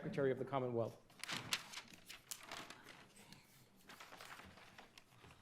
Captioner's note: paper rustles